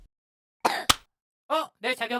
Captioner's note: Screw coughing